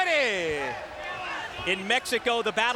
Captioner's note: applause